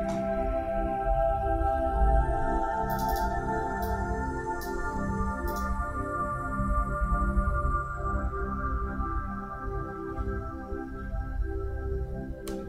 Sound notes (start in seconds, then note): 2.3 mouse clicking; 7.5 beautiful, soothing chime and bell music